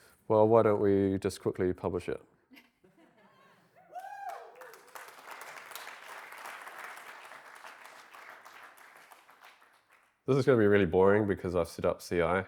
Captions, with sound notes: Well, why don't we just quickly publish it? (audience applauding) This is going to be really boring because I've set up CI.